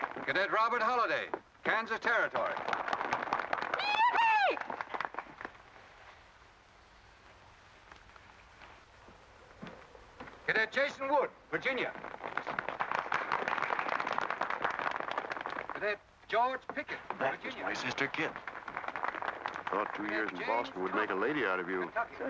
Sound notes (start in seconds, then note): 0.0 applause; 1.7 applause; 5.6 awkward silence; 11.6 applause; 18.7 applause